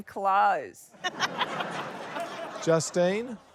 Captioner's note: laughter